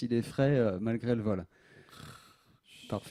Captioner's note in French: ronfle